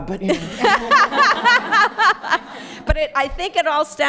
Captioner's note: laughter